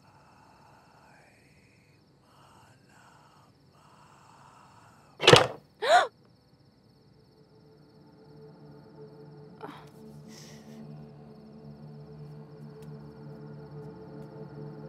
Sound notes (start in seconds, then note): 0.1 demonic whisper; 5.2 window opening